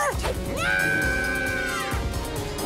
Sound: screams

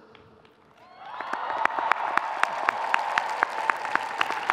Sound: audience cheering

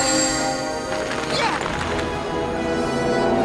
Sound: bell rings

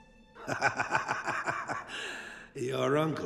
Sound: laughing

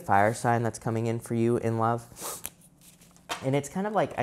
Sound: sniffing

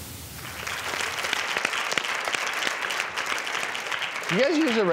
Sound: audience applauds

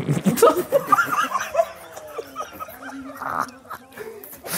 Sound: both laughing

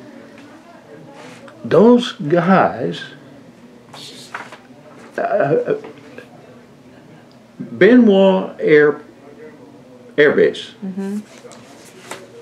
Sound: laughter

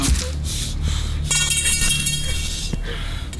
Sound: crowbar clangs against the ground

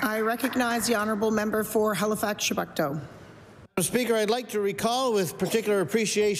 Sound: applause

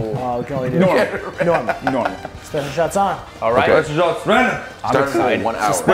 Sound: laugh

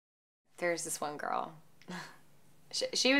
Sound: chuckle

